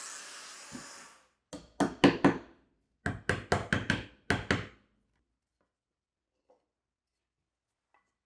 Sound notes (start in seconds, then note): 1.5 mallet taps